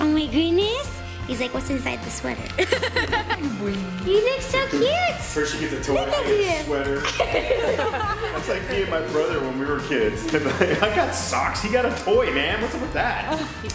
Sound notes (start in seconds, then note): 2.6 laughter